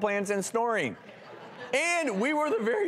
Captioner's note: laughter